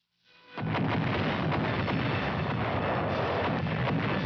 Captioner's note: cannons firing